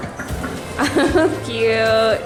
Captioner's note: laughs